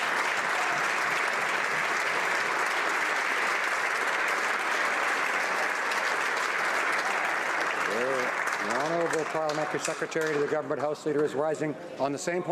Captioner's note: some Applause